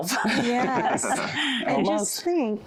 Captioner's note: laughter